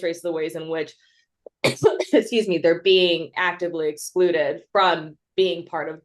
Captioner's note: coughs